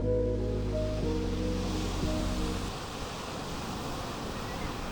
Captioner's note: pensive music; waves crashing